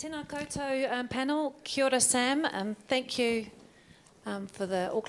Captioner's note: speaking in foreign language